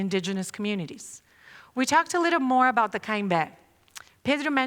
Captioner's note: non-english speech